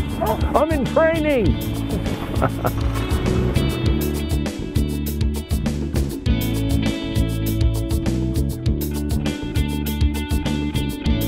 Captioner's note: laughter